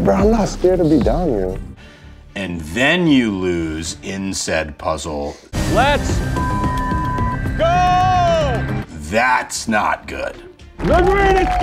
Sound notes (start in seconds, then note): 6.2 beeps; 10.8 crowd cheering